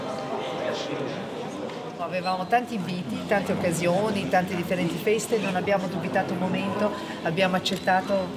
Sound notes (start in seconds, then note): 2.6 speaks in Italian